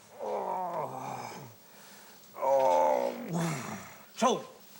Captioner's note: groaning